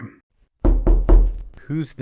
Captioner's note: knock knock knock